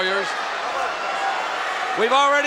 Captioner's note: crowd shout